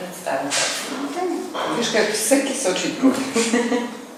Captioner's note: laughter